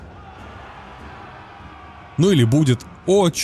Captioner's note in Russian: крик